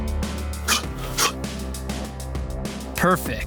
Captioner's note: sharp exhaling